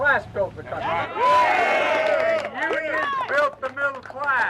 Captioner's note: crowd cheering